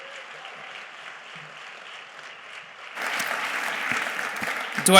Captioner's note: audience applauding